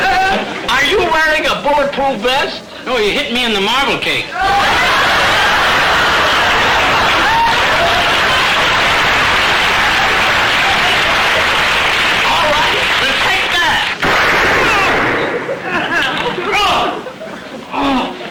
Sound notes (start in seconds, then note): 4.5 audience laughter; 7.7 audience applause; 13.9 gunshot